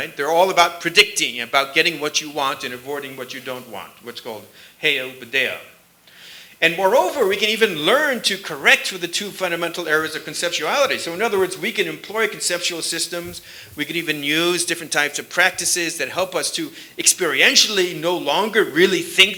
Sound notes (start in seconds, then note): 5.7 sanskrit